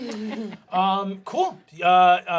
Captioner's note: everyone laughing